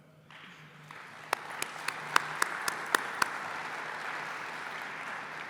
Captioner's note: applause